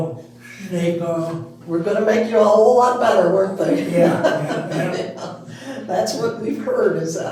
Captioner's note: laughing